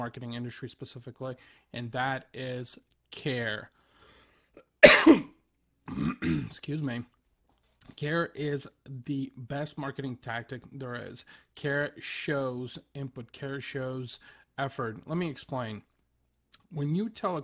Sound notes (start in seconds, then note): 4.6 terrible cough